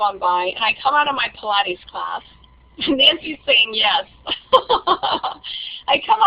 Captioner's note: laughing